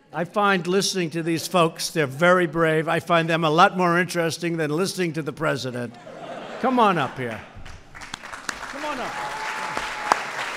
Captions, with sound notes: I find listening to these folks -- they're very brave -- I find them a lot more interesting than listening to the President. (Laughter.) Come on up here. Come on up, guys.